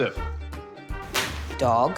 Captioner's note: thwack!